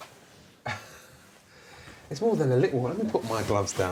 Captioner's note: laughs